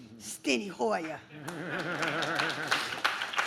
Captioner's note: audience claps; chuckles